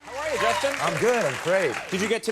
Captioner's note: crowd applauding